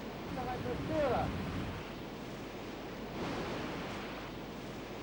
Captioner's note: speaks foreign language